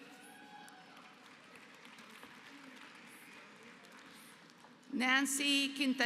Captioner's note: applause